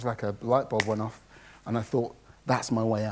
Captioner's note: snaps loudly